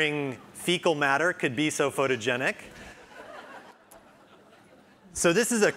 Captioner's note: audience members laugh